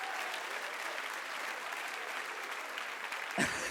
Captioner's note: audience claps and cheers